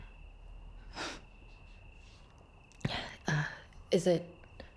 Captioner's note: Rachel scoffs